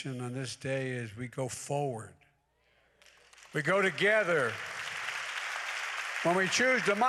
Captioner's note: applause